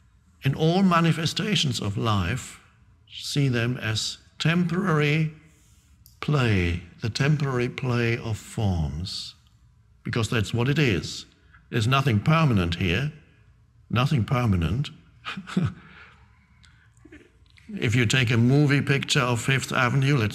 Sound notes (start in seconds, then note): 15.2 Eckhart laughing